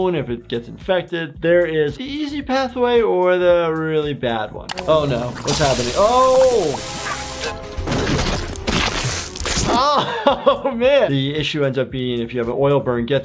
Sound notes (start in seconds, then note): 4.7 oil frying; 8.5 hand squishes; 9.9 laughs